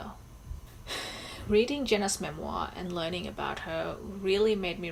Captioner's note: sighs